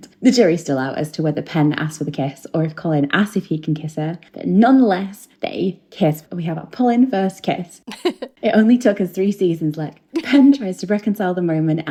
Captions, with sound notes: The jury's still out as to whether Pen asks for the kiss or if Colin asks if he can kiss her. Nonetheless, they kiss, but we have our Polin first kiss. (laughing) It only took us three seasons, Lech. Pen tries to reconcile the moment